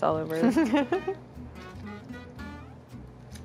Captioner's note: laughs